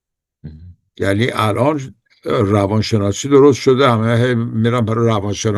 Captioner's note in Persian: گلویش را صاف می‌کند